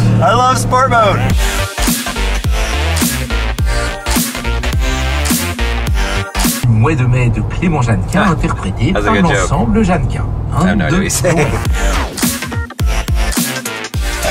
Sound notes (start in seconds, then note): 0.8 upbeat music; 7.0 speaks foreign language over radio; 10.8 upbeat music